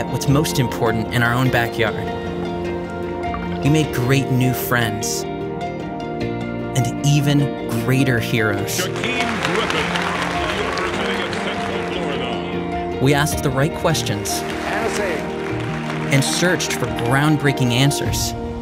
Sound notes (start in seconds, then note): 10.7 applause